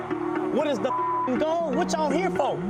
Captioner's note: beep